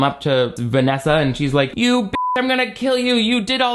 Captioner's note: beep